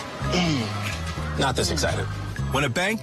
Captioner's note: grunting